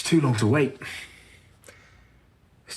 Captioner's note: he exhales